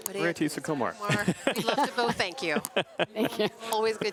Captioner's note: laughter